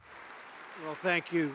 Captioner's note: applause